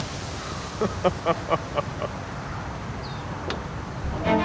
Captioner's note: chuckles